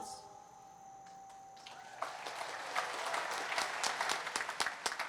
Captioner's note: applause